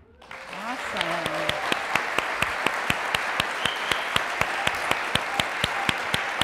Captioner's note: audience cheers and claps